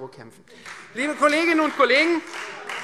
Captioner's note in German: Beifall Freie Demokraten